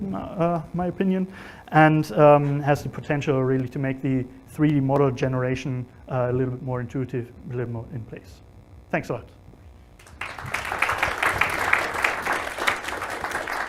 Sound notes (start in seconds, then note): 10.0 applause